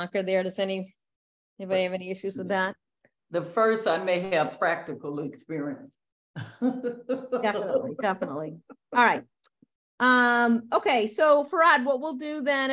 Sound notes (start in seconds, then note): 6.4 laughter